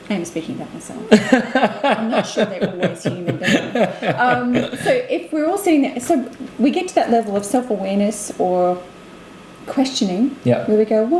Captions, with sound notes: I am speaking about myself. (laughs) - I'm not sure they were always human but anyway. So if we're all saying that so we get to that level of self awareness or questioning, where we go